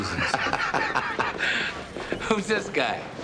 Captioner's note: laughs